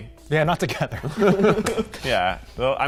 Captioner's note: all laughing